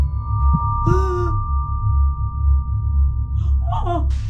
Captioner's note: mother gasping